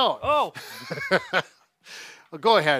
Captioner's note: laughs